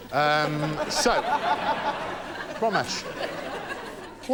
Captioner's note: laughter